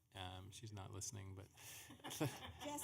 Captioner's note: laughing